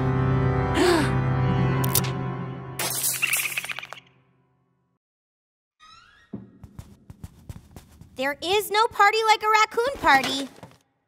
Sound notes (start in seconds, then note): 0.0 ominous music; 0.4 gasps; 2.7 crash